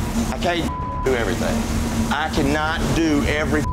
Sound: beeping

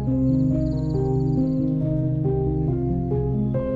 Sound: birds chirping

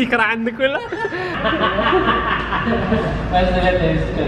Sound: laughs; speaks Indonesian

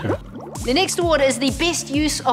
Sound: bubbles

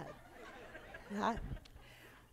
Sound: laughter

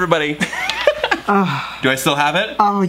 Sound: laughs

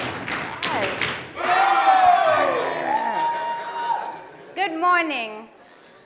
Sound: crowd cheering

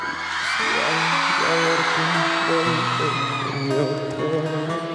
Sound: applause

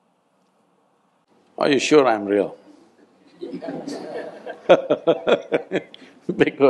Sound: laughter

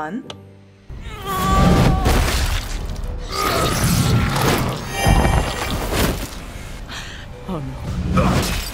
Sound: sounds of horrific violence

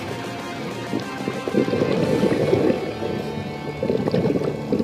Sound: gurgles

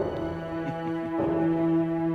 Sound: chuckles

